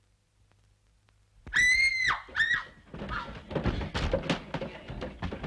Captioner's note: screaming!